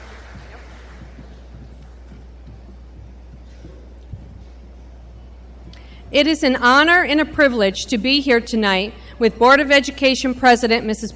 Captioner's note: applause